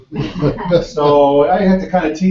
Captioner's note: laugh